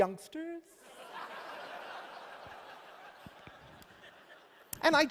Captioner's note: laughter